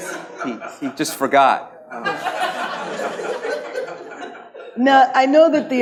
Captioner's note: audience laughs